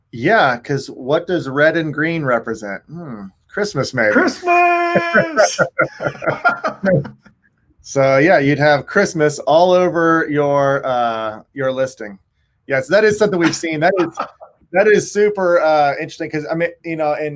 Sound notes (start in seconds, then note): 4.2 both laugh softly